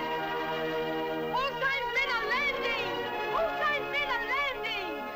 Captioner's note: Italian spoken audio